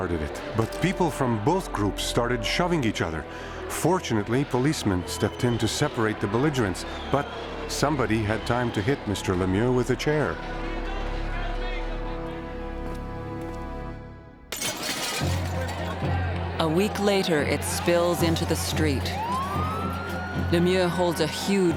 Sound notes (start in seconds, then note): 14.5 glass breaking